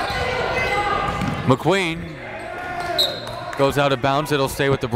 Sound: whistle blows

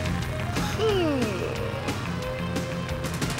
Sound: yawns

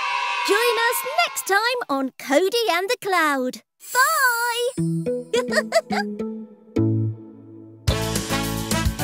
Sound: giggles

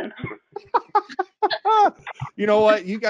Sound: laughing

